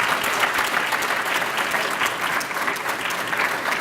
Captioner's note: applause